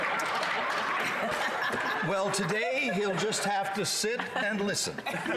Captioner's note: laughter